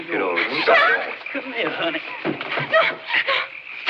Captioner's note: cries Out